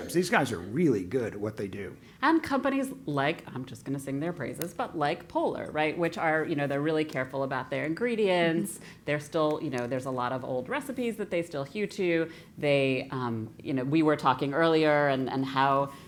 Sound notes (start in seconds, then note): none